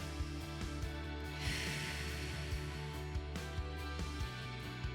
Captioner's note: upbeat music continues; exhales